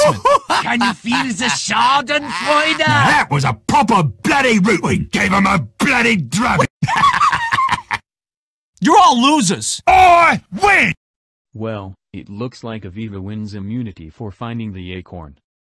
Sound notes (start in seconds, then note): 0.0 aardvarks continue laughing; 6.4 laughs again